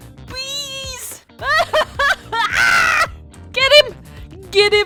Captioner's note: laughing and screeching in terror